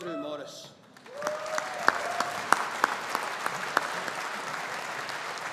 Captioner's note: audience applauding